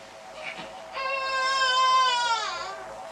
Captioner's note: continues crying